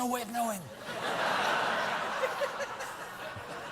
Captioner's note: laughter